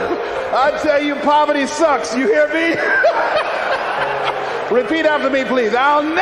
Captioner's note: laughs